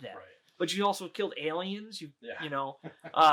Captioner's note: laughing